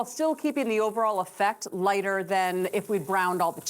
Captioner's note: sizzling